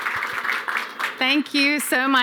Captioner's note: applause